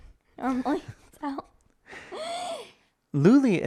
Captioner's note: chuckling